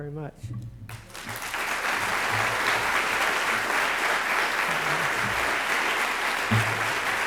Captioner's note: applause